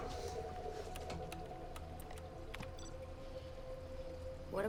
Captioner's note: keyboard clacking